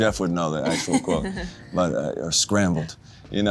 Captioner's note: Jodie laughs